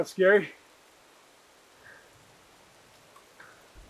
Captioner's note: rain trickling in distance